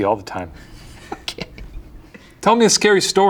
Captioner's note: laughing